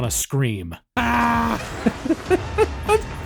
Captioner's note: screams; laughs